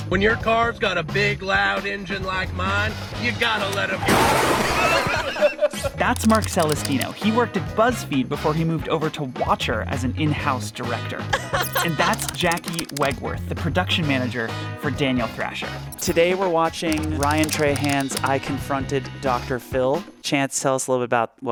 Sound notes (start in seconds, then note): 4.3 car crashing; 4.7 both laughing; 11.4 laughs